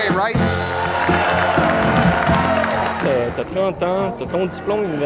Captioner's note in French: applaudissements